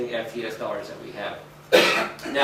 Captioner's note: coughs